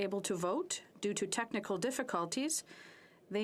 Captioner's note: speaking French